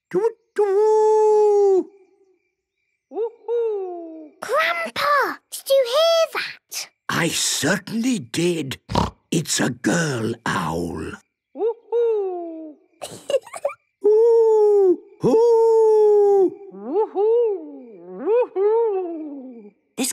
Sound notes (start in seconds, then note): 8.8 snorting; 13.0 Peppa giggling